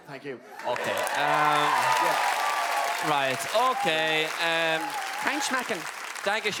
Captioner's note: Applaus